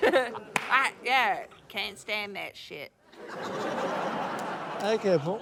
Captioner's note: laughter